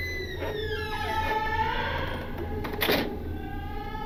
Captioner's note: door opens and shuts